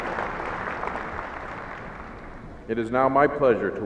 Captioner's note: applauding